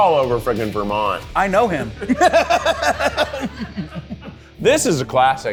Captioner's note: all laughing